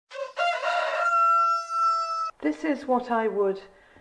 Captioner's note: rooster crowing